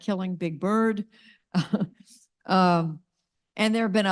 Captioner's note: laughs